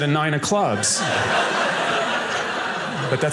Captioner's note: audience laughing